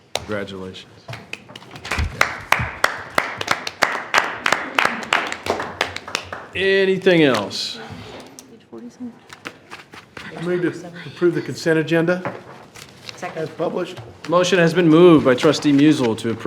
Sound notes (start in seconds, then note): 1.1 attendees clapping